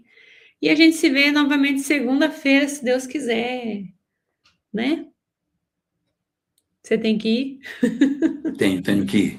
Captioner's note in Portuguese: risadas